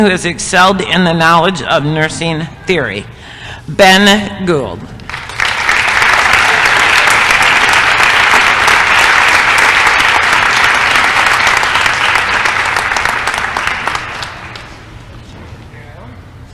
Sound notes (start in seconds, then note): 5.0 applause